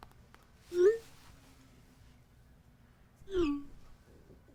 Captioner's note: phone chirps